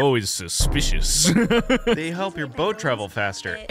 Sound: laughs

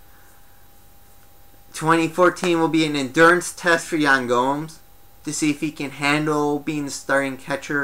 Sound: hands clap

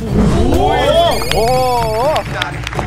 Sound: hands clapping

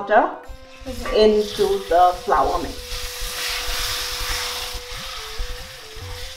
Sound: halwa batter sizzles

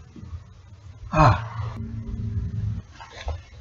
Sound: sighs

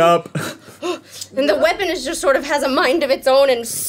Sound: huffing

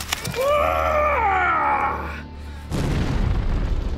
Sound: scream

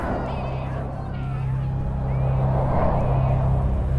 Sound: ominous music; girls yelling

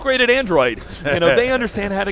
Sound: laughs

